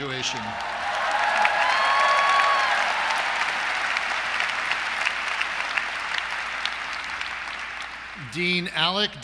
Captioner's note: applause